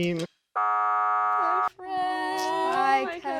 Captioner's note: buzzer resounding